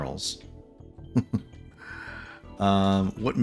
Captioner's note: laughs